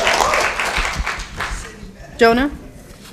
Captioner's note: applause